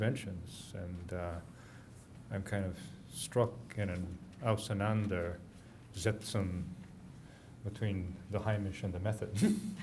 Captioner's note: german